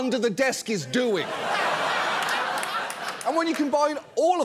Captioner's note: studio audience laughs